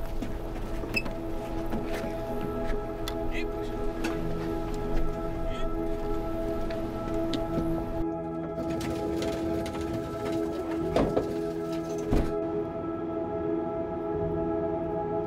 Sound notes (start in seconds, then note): 0.1 gentle music; 8.7 truck door cracking